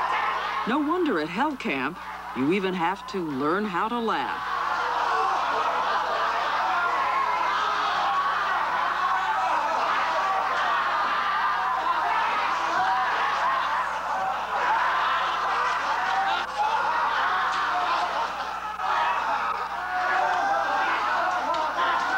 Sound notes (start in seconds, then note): 4.8 laughing continues